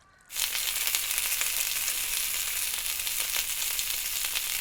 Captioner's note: sausages sizzling